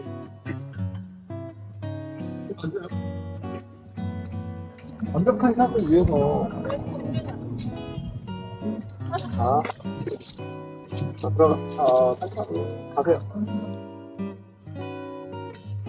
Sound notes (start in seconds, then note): 6.9 murmuring murmuring; 12.3 quietly